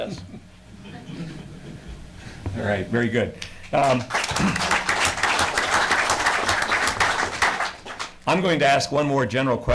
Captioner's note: audience applauds